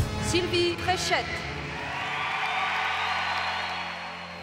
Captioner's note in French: acclamations